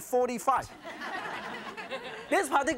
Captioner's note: audience chuckles